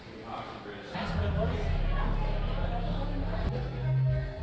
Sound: Ambient crowd noise at the Pourhouse

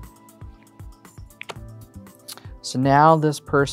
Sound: thumps cards on table; card slaps on table

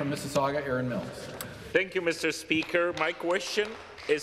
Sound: some Applause

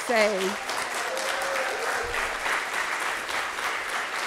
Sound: audience applauding

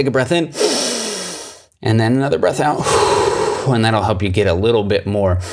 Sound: inhales; exhales

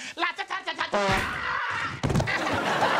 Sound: screaming; laughing

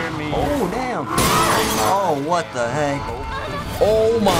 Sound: glass shatters; object strikes

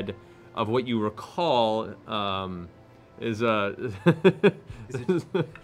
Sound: laughs

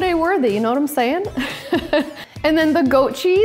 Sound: laughs

